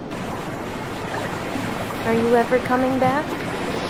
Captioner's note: water splashing